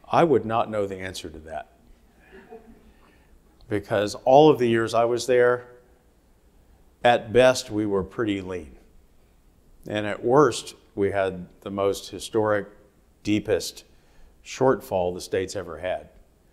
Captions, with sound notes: - I would not know the answer to that. (audience laughing) Because all of the years I was there, at best we were pretty lean, and at worst we had the most historic, deepest shortfall the state's ever had.